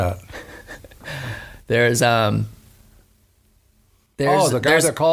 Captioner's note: laughs